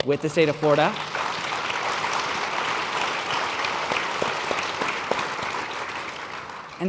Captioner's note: applause